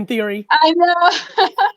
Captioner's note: laughs